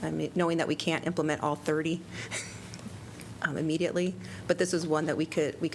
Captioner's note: laughter